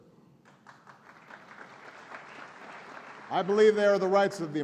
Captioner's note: applause